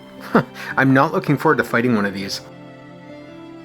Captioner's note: chuckles